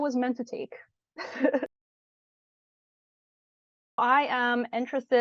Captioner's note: laughs